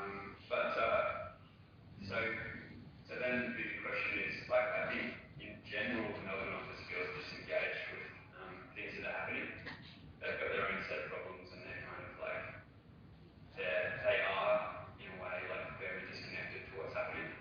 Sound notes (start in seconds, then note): 6.6 audio distorts